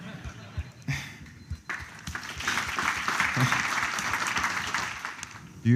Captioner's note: laughter; applause